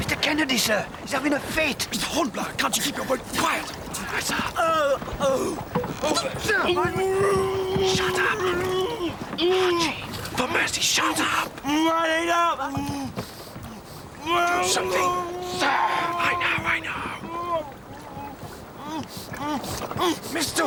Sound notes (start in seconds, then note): 16.6 groans